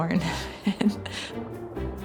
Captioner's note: chuckles